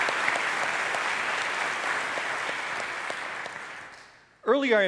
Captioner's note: applause